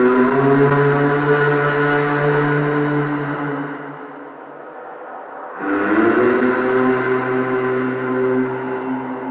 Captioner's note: humming sound